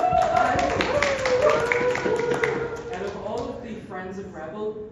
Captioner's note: applause